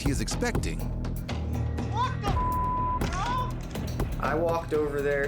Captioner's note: beep